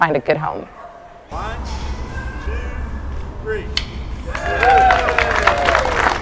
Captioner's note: 1, 2, 3... cheering; clapping and cheers